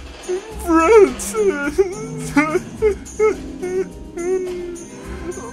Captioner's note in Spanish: solloza